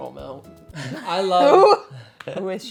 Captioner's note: both laughing